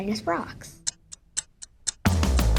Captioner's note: ticking